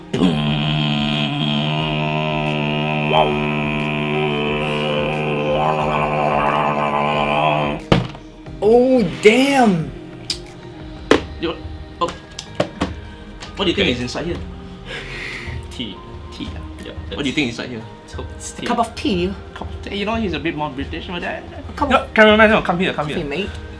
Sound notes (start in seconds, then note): 8.0 bam; 19.0 in Bri-ish accent